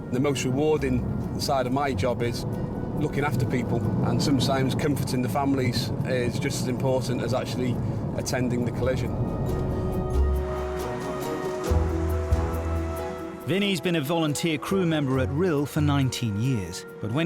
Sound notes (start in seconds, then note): 9.4 upbeat music; 11.0 car engines revving